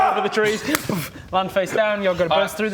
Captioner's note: boof